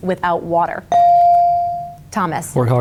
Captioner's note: bell dings